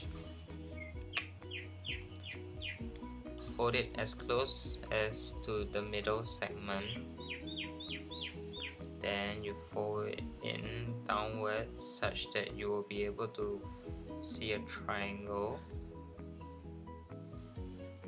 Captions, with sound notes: [Birds chirping] Fold it as close as to the middle segment. [Birds chirping] Then, you fold it in downwards, such that you will be able to see a triangle.